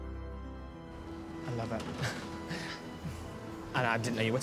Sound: giggles

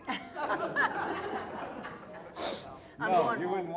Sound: laughter

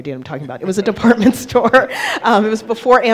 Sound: laughing

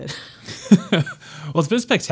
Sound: laughing

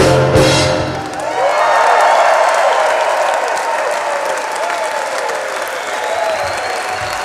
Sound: audience cheering; audience clapping

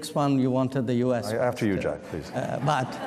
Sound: laughter

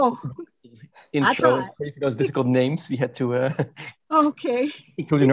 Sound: laughs

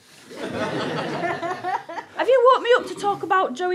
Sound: audience laughter

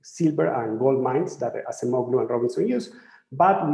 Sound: speaking in foreign language

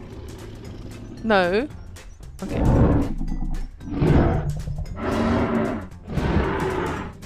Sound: scary sniff Rex noises

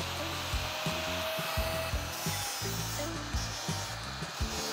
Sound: metal grinds; upbeat music

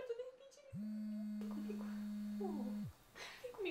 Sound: phone rings

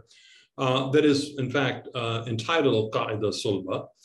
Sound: speaking in Arabic

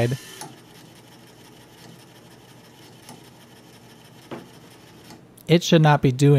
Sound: rapid, frantic whirring as the laser has a freak-out

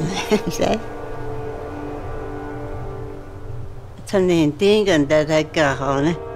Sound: speaks other language: English translation on screen

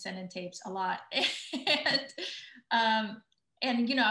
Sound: laughs

